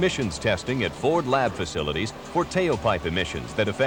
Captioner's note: engine revving